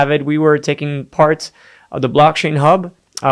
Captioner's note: none